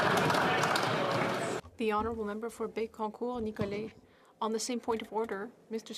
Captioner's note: applause